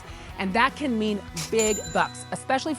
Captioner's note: cash cha-chinging